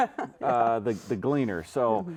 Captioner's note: chuckling